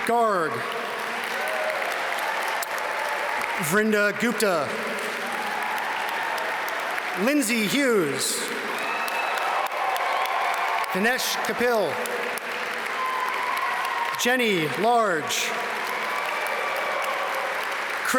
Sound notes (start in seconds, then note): 1.6 audience cheer and applaud; 5.2 audience cheer and applaud; 9.1 audience cheer and applaud; 12.8 audience cheer and applaud; 15.9 audience cheer and applaud